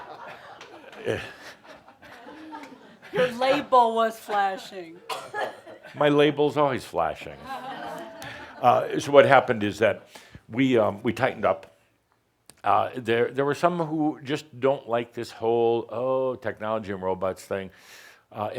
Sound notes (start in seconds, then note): 7.4 more chuckles